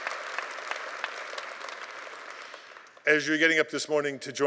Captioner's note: applause